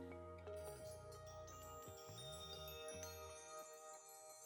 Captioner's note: bells chime